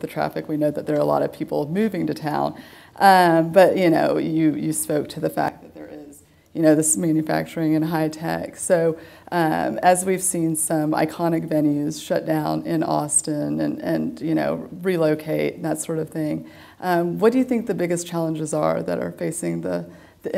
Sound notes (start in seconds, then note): none